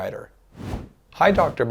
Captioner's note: frame whooshes